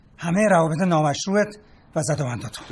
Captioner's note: none